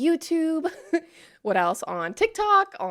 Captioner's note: chuckles